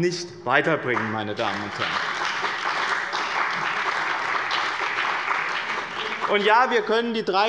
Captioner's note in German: Beifall bei dem BÜNDNIS 90/DIE GRÜNEN und der CDU